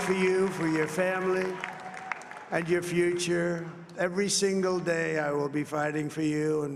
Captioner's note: cheering and applause